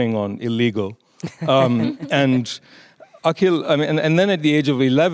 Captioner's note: artists laughing